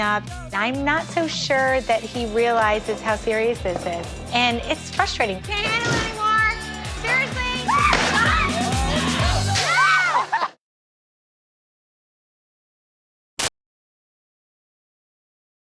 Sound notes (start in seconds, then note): 7.6 screams